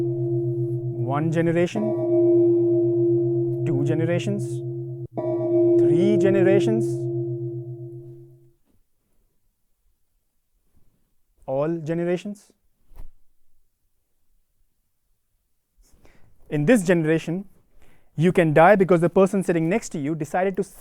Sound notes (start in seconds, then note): 2.1 loud gong; 4.8 loud gong; 7.2 loud gong; 8.2 gong stays silent